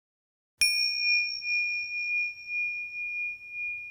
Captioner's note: bell rings